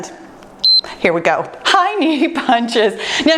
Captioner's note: timer beeps